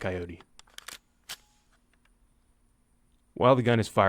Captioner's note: trigger clicks